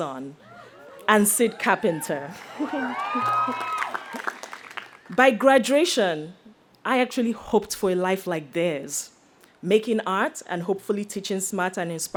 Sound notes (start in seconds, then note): 2.3 chuckles; 2.6 audience cheers